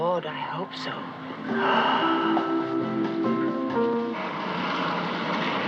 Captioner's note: gasps